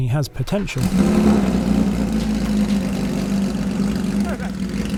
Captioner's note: engine rumbling